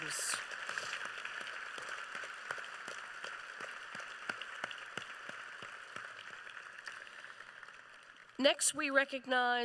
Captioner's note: applause